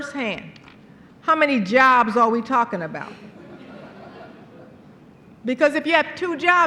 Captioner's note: laughter